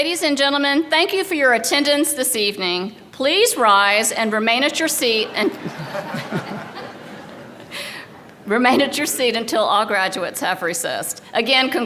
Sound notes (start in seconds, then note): 5.2 laughter